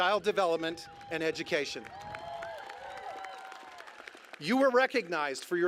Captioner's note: applause